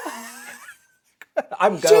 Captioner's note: laughing